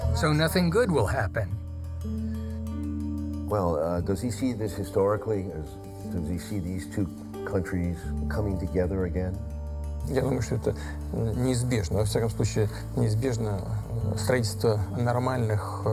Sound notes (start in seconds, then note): 10.2 speaking foreign language